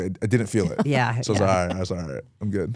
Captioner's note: host laughs